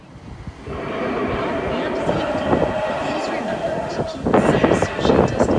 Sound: dinosaurs roaring

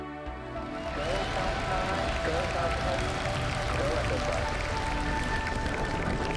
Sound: ambient music; crowd applauding

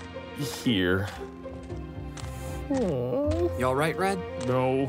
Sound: Red cries

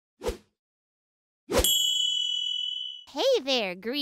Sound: swipe

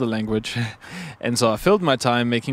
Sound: laughs

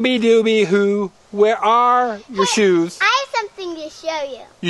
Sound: voiceover

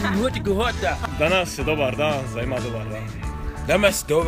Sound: speaks in foreign language

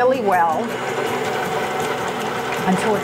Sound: machine rumbling

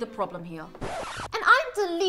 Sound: record scratch

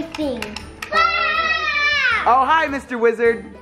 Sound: screaming

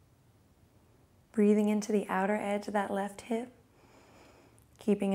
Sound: inhales

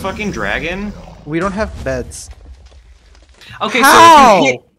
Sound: mossrag explodes

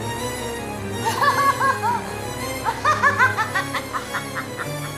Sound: laughing

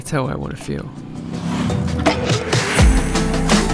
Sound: traffic whooshing; motor cycle purrs; upbeat music continues

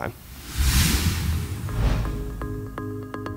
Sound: swooshing sound effect; gentle instrumental music

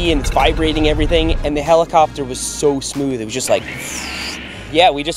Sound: swoosh

